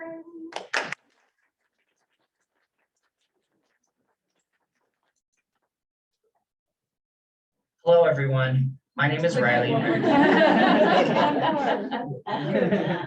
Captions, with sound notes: (audience applauding) Hello everyone, my name is Riley. (audience laughing)